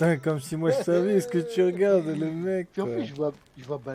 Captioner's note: laughs